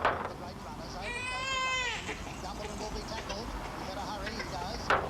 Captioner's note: baby crying